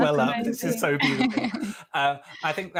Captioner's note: laughing